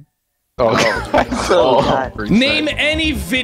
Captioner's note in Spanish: risas nerviosas